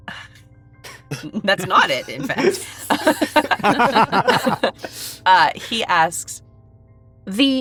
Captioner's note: chuckles